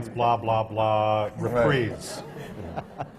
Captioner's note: laughter